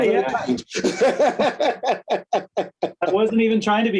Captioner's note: laughs